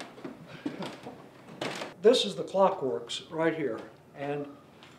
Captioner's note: chuckling